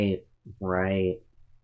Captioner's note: sarcastically